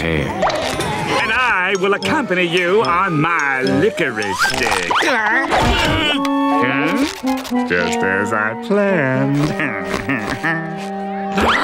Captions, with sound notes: then I'll get out your hair. And I will accompany you on my licorice stick-- [groaning] just as I planned. [chuckling]